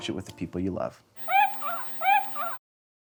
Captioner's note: Porg sounds